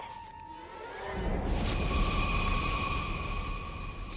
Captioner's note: magical buzzing sound